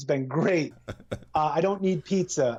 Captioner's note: laughter